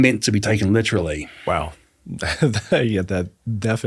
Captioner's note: laughs